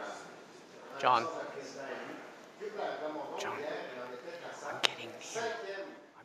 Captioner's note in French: voix de l'interprète